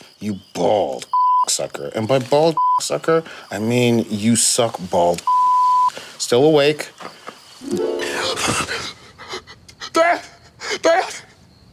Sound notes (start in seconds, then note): 2.6 beeping; 5.2 beeping